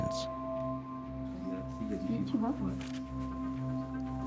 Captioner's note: people talking in background